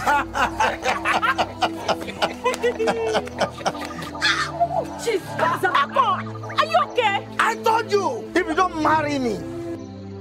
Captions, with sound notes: (men laughing) - Ah, chief, (speaking in foreign language). Are you okay? - I told you, if you don't marry me,